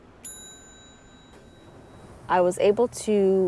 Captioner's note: bell rings